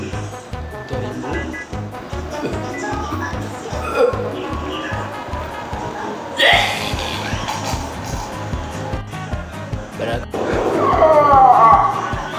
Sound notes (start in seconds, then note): 1.8 vomiting